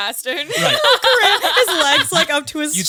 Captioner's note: all laughing